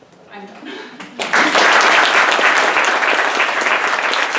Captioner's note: applause